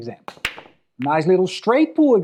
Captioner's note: ball clacks